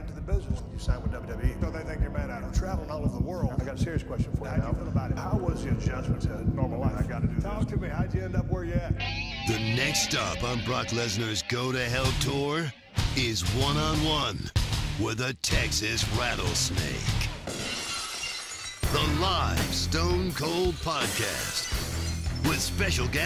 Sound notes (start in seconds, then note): 17.4 glass shattering